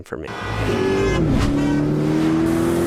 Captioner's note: engine revs; horn blares